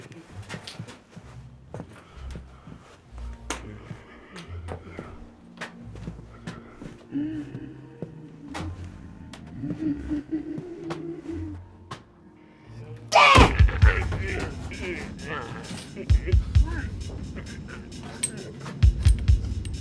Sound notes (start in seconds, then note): 12.8 shouts